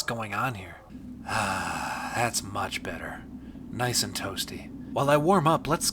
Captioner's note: wind ceases